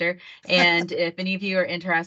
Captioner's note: laughter